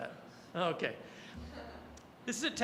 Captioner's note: audience chuckling